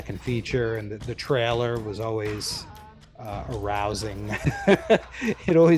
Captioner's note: laughs